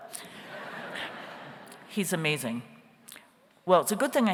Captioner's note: audience laughs